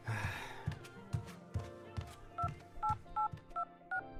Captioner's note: sigh